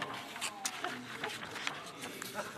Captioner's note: laughter